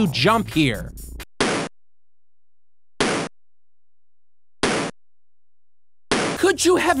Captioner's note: annoyining jump effect!!!